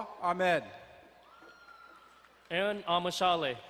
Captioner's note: girl cheering in distance